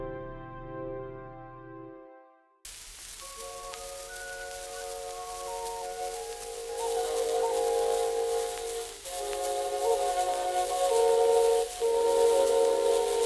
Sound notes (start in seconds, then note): 1.3 pensive music continues; 2.6 static hissing; 2.8 gentle music